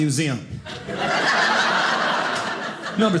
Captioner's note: audience laughing